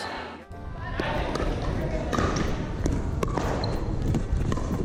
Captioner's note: ball bouncing